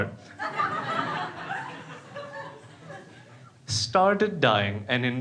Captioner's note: crowd laughing